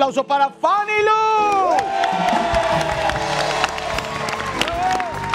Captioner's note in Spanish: Aplausos